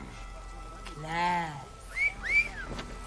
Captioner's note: wolf whistle